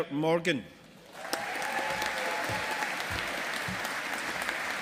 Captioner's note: audience applauding